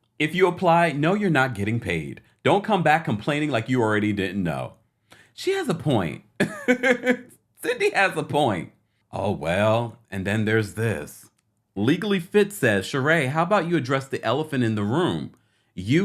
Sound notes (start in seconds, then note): 6.4 laughing